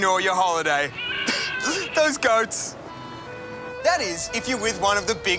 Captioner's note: bleating